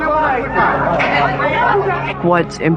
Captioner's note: indistinct shouting